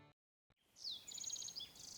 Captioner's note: birds chirp